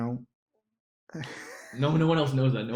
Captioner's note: laughs